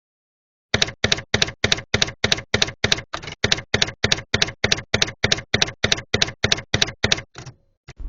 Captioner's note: typewriter keys clacking